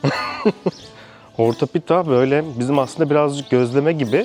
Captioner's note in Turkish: kahkaha